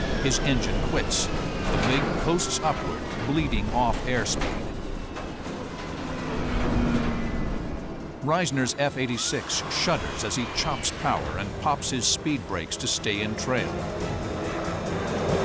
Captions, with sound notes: His engine quits. The MiG coasts upward, bleeding off airspeed. [rattling] Risner's F-86 shudders as he chops power and pops his speed brakes to stay in trail.